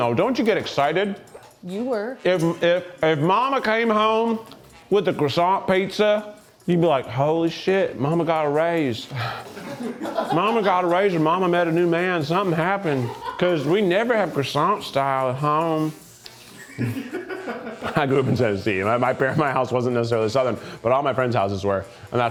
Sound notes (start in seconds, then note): 16.6 crew member laughs